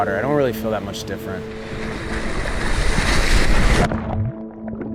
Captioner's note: waves crashing